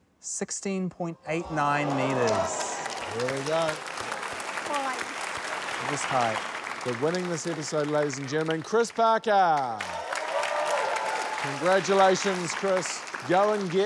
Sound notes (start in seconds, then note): 4.2 applause; 9.5 cheers, applause